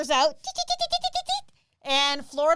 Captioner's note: gibbers